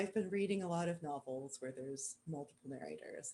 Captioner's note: none